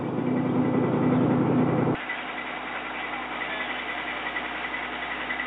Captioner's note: engine continues rumbling